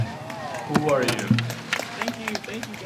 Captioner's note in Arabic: تصفيق